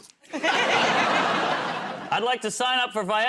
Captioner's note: laughter